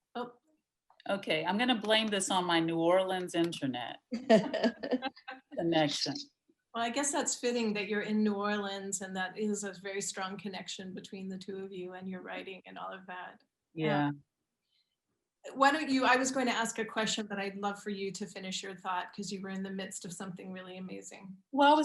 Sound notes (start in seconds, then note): 4.2 laughing